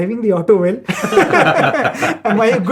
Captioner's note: laughter